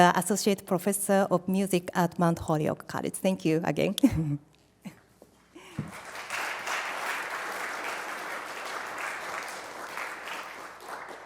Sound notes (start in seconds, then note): 5.6 applause